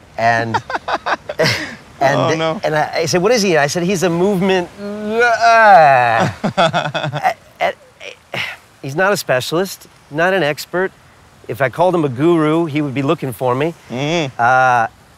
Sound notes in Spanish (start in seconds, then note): 0.4 risas; 5.0 Imitando el habla de movimiento lento; 6.1 risas